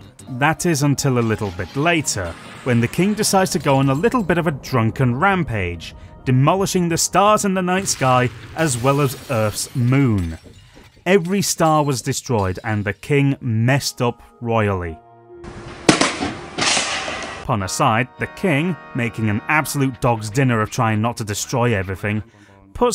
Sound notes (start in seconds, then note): 15.8 badum; 16.5 tss